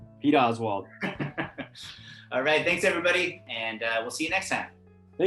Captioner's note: laugh